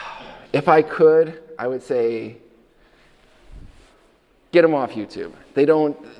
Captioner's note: sighs